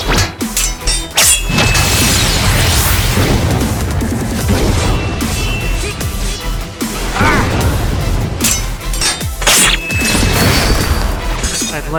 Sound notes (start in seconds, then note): 7.1 grunt